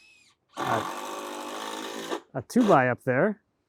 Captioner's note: machine drilling